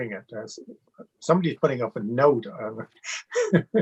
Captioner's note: laughs